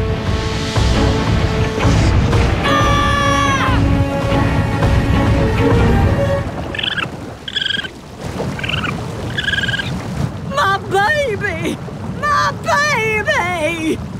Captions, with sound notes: [screaming] [squeaking] My baby, my baby!